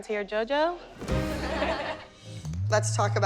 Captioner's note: laughter